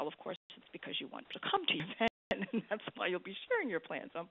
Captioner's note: laughs